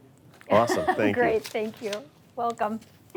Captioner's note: laughs